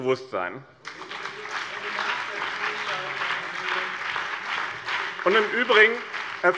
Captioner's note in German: Beifall BÜNDNIS 90/DIE GRÜNEN und SPD